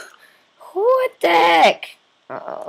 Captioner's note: voice crack